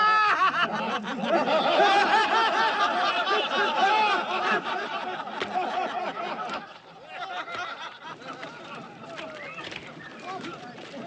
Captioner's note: laughter